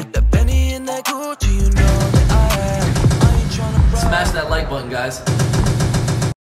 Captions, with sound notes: (machine gun sound) Smash that like button, guys. (machine gun sound)